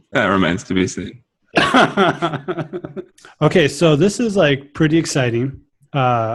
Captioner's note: laughs